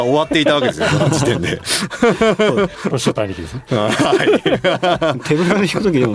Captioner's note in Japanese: 笑い